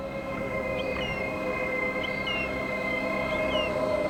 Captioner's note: birds chirping